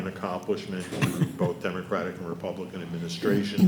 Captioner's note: laughing